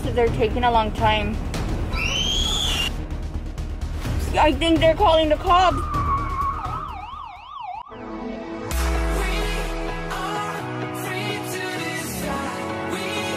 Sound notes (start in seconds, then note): 1.9 screaming; 5.5 siren wailing; 6.2 car breaks screeching